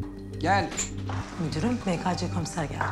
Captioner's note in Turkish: Kapı vurma sesi; Kapı açılma sesi